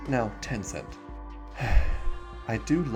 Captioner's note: sigh